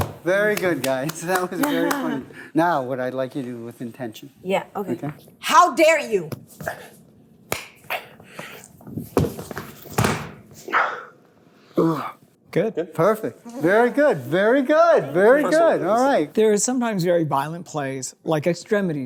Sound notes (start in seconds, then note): 7.4 slapping sound